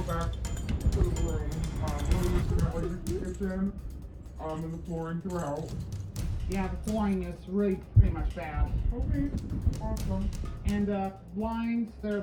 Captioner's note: altered/distorted